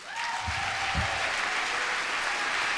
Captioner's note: applause